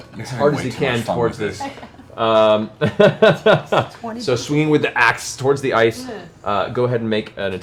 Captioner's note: laughs